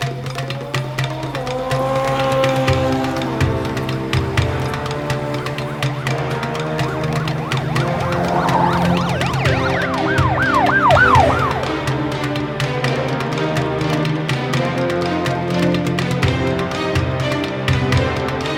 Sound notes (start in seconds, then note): 0.1 dramatic music continues; 0.1 engine roaring; 4.6 dramatic music continues; 4.6 sirens wailing; 12.3 dramatic music continues